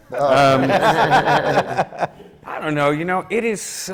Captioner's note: laughter from the panel